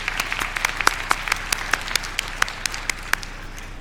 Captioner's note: applause